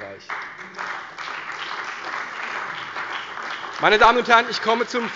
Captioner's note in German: Beifall bei der CDU und dem BÜNDNIS 90/DIE GRÜNEN